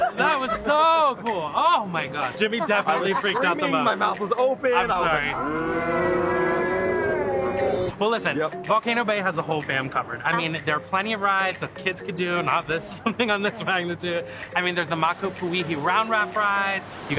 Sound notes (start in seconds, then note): 5.2 slow motion distorted screaming